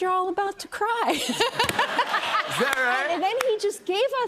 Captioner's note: laughter